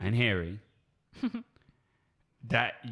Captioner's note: giggles